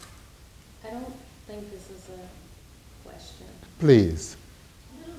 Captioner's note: woman's Voice